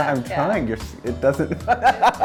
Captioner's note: laughs